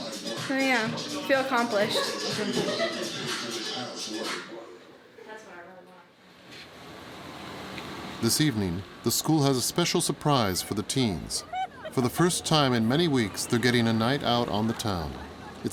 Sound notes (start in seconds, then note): 6.7 vehicle droning